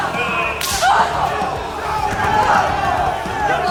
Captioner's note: A loud slap is heard over Mariposa’s painful cries